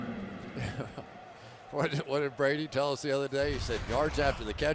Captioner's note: chuckles